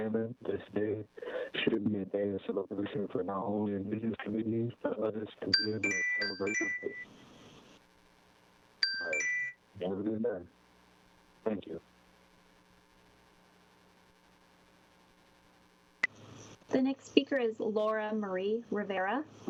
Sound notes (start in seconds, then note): 5.5 chime